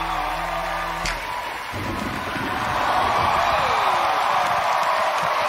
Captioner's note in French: applause